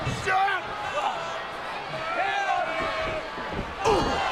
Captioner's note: Batista grunts